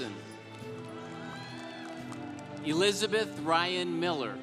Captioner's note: congregation applauding